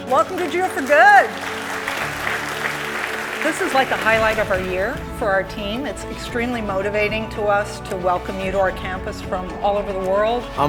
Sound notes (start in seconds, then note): 1.5 audience claps